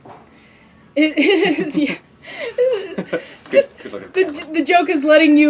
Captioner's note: laughing